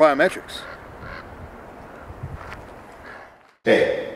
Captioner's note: bird squawks